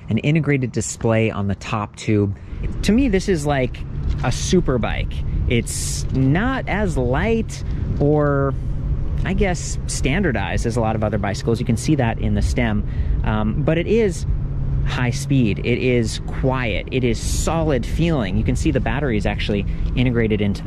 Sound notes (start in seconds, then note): none